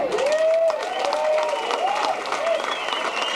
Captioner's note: applause